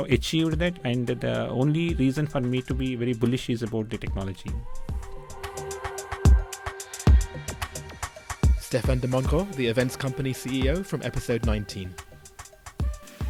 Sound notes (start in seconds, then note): 4.1 voiceover